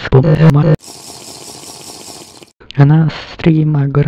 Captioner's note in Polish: Minecraft Drink Sound effect